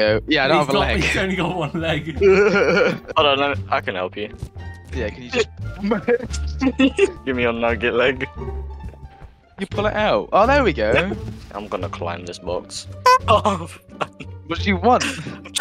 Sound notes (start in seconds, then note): 13.8 laughs